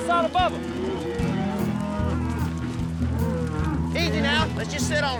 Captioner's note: mooing